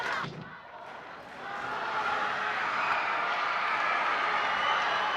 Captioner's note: cheering